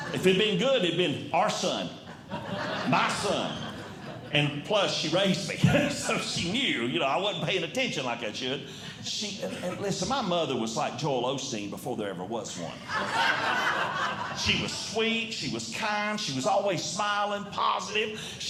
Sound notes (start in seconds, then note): 1.7 audience Laughing; 12.7 audience Laughing